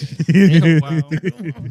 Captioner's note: laughing